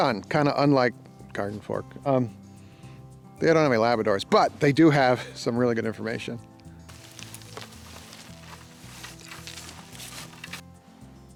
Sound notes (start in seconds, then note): 6.9 wood chips pattering